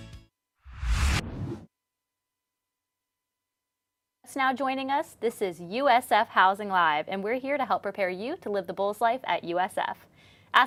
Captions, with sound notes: (graphic whooshes) - Just now joining us, this is "USF Housing LIVE!" And we're here to help prepare you to live the Bull's Life at USF.